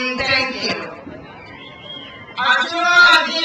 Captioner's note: crowd cheers